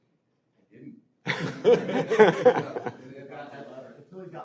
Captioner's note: panelists laughing